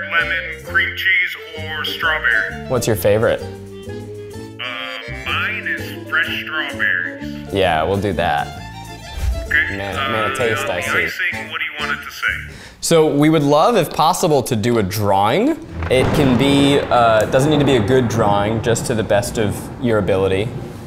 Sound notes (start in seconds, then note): 16.5 thunder crashing